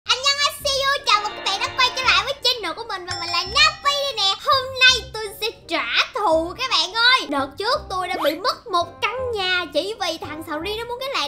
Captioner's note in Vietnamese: Chuông